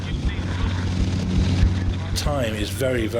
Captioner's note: lifeboat engine whirring